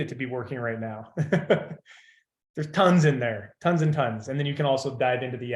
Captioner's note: laughs